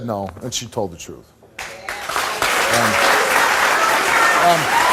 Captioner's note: audience applauds